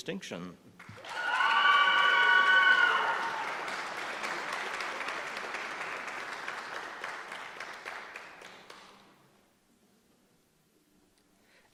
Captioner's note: applause